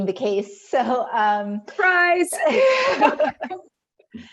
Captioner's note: chuckles; laughing